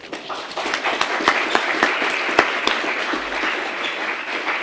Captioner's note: audience applauding